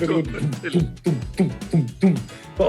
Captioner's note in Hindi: ड्रम की आवाज़ निकालते हुए